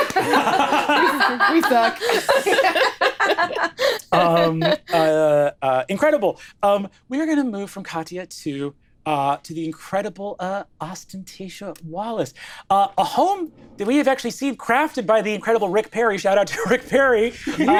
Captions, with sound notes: - We suck. (laughing) - Incredible, we are gonna move from Katja to the incredible Ostentatia Wallace. A home that we have actually seen crafted by the incredible Rick Perry, shout out to Rick Perry.